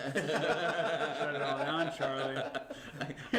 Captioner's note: laughs